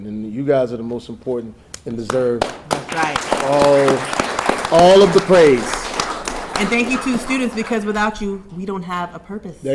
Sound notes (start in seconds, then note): 3.9 audience applauding